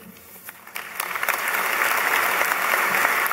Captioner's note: applause